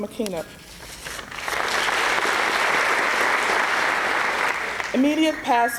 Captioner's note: applause